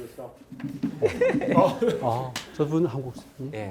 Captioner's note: attendant speaking distantly; student laughing; speaking in Korean